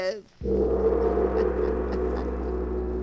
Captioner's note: laughter